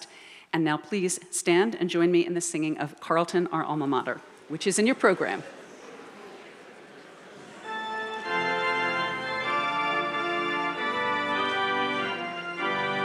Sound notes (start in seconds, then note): 6.1 audience chattering off microphone